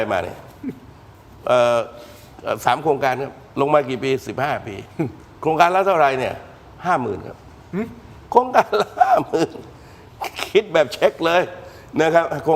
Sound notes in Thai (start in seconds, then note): 8.4 เสียงหัวเราะ